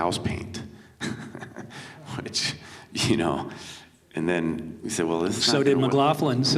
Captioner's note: chuckles